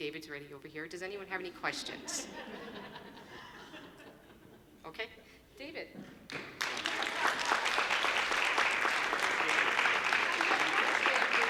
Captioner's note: applause